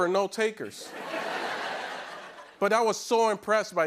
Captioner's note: laughter